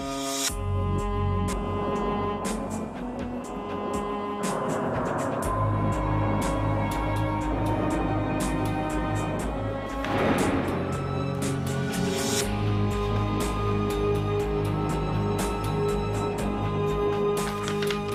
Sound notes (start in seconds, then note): 10.0 gun firing; 12.6 dramatic music